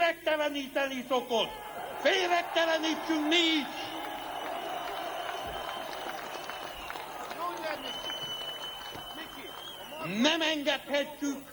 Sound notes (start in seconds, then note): 4.6 applause, whistle